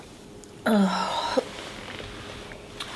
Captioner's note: groans